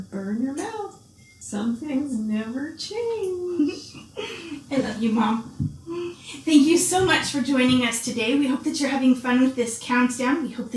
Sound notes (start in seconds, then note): 3.5 giggles